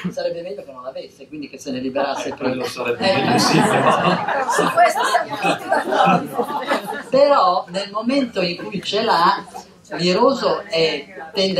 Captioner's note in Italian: risate